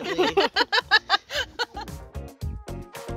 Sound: laughing

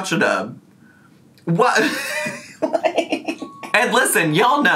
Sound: laughing

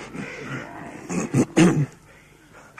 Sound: clears throat

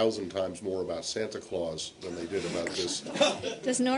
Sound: laughter

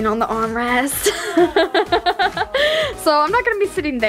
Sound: laughs

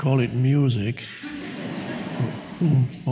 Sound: audience laughs

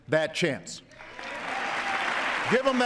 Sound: cheers, applause

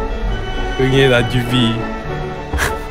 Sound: babY cRyiNg

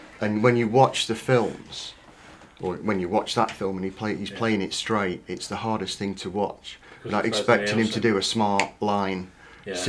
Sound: none

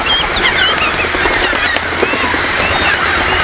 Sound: birds chirps

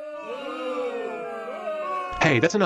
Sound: boo!!

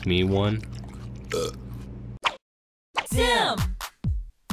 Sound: burps

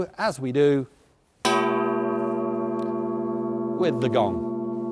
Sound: gong blares

